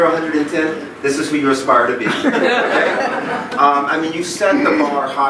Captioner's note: laughing